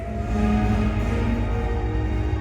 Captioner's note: cheering